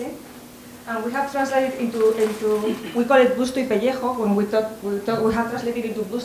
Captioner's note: spanish